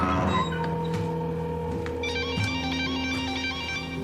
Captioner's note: cell phone ringtone